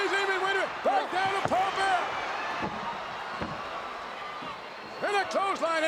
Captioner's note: crowd cheers